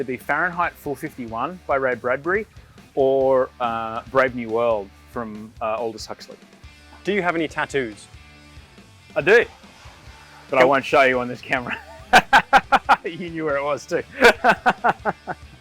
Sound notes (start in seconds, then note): 11.5 laughs; 14.4 laughs